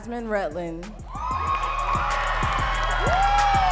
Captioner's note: audience cheering and clapping